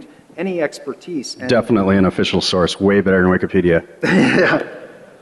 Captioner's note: laughter